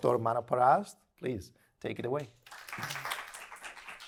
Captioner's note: applause